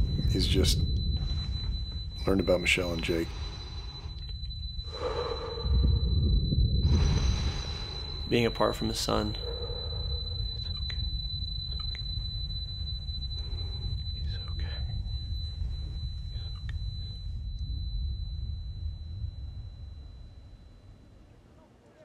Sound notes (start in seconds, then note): 4.4 ringing noise, distorted sounds; 19.2 ringing stops